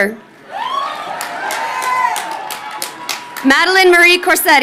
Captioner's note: crowd cheering